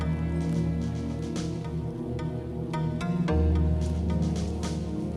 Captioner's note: gentle music; car engines revving